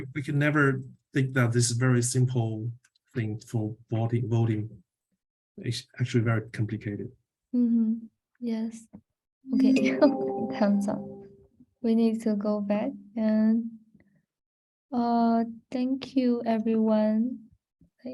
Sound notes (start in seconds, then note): 9.5 timer chiming